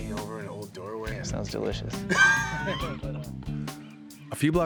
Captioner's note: laughs